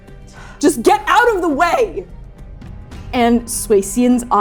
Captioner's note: labored breathing